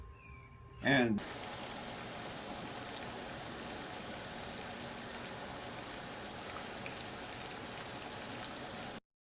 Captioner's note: static Noise